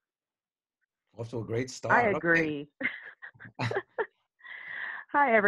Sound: laughs

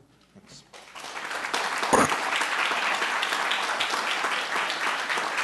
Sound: applause

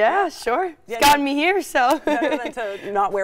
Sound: laughing

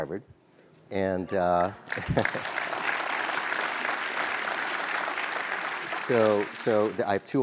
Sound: applause

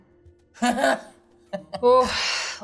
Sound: chuckles

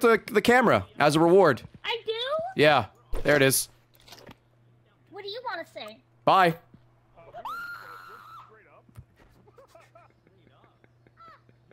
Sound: screams; laughs

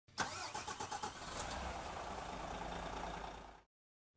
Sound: engine starts

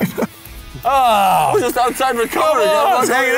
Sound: laughs; sighs

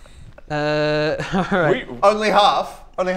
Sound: laughs

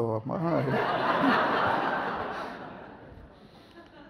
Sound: audience laughs

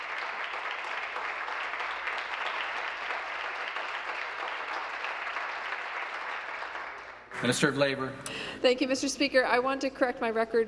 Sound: applause

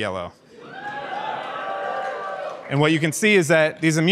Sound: audience cheers

